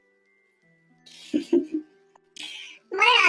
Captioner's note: laughs